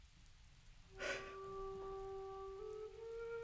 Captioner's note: sobs